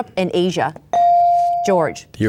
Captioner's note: bell dings